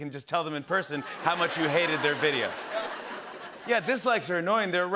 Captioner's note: laughter